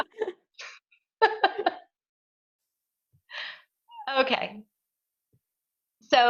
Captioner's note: laughs